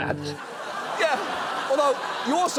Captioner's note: studio audience laughing